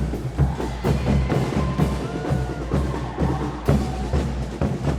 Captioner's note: singer cheering